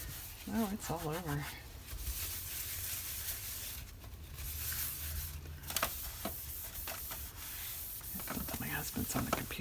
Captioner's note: whispers